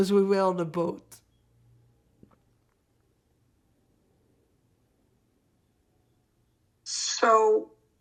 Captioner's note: pauses 6 seconds